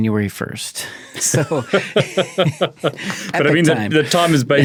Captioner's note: both laughung